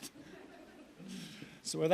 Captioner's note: audience laughs